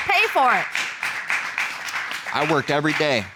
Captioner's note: audience applauds